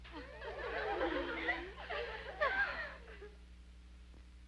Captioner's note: girls giggle